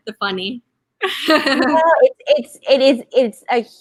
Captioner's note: laughing